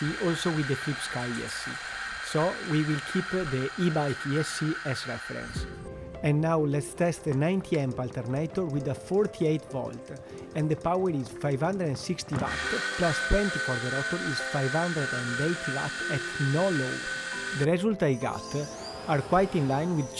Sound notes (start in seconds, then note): 12.2 machine whirring